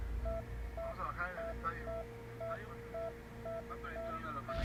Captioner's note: heart Monitor